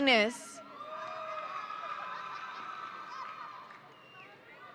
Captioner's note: audience cheering